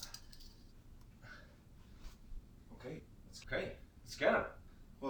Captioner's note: metals clings